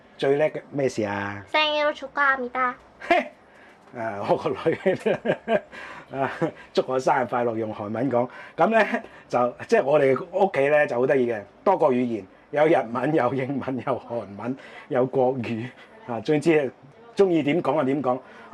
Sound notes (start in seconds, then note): 2.4 Korean